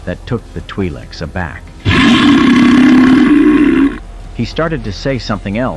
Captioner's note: belch!